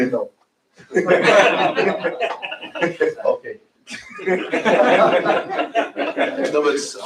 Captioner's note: laughter